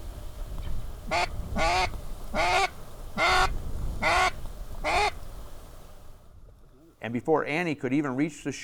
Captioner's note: geese calls